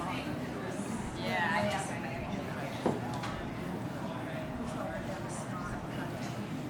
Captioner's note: faintly speaking